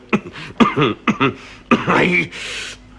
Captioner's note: coughs